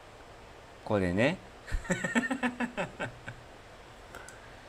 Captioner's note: laughs